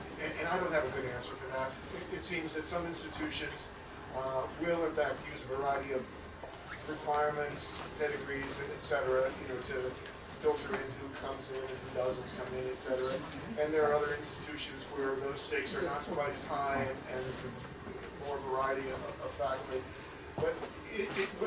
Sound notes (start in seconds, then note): none